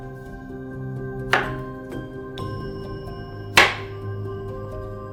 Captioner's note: knife thuds